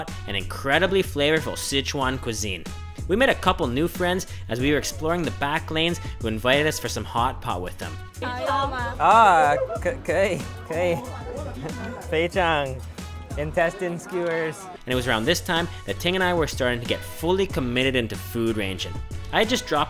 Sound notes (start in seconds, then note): 9.4 speaking foreign language